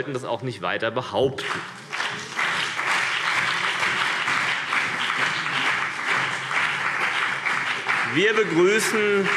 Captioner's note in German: Beifall CDU und BÜNDNIS 90/DIE GRÜNEN